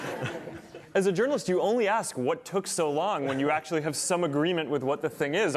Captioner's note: laughter